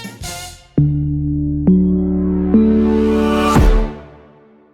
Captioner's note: stomps